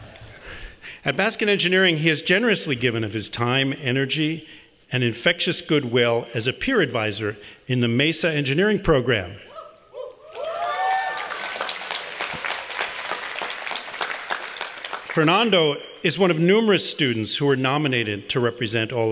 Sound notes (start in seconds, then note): 11.8 applause